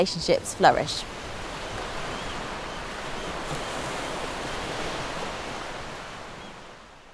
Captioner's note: waves rushing; birds screeching